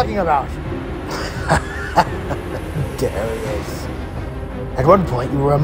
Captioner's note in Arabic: رجل يضحك